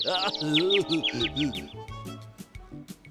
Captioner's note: groaning; birds tweeting